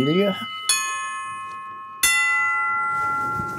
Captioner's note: high-pitched ringing